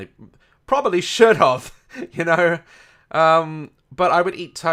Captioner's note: laughs